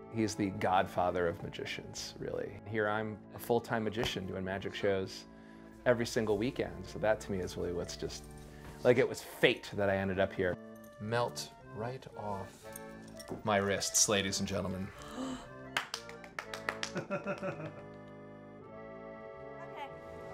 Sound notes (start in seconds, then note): 14.9 woman gasps; 15.7 person claps; 16.9 man laughs